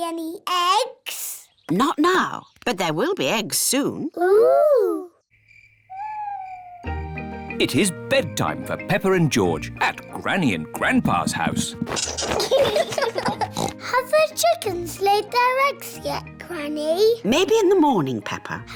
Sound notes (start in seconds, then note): 5.2 crickets chirping; 12.0 both giggling; 13.4 oinks